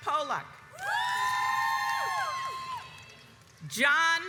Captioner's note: audience cheers